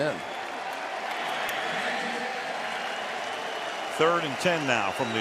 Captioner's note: cheering